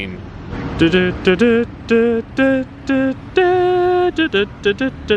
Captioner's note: hums